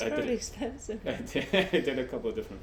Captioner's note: laughing